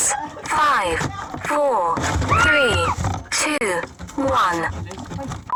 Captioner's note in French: la femme crit